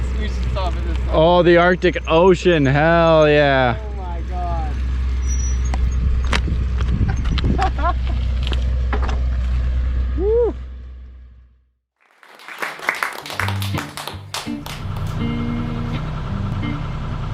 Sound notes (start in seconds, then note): 5.2 bike tyres braking; 7.8 laughing and cheering; 12.0 applause; 14.2 pensive guitar music